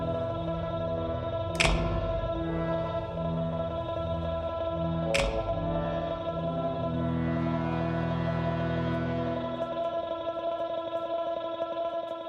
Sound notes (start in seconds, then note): 1.2 ominous music continues; 1.5 light clicking on; 7.0 ominous music continues